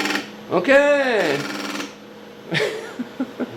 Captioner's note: laughter